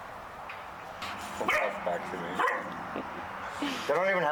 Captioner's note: Frank barking; laughs